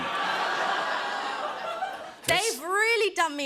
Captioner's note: laughter